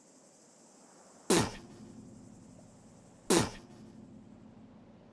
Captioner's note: beatboxing